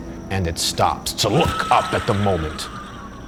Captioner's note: screaming